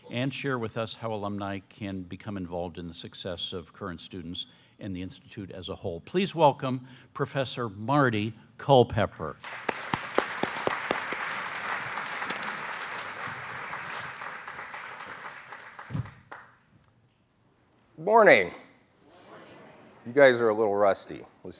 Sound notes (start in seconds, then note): 9.4 applause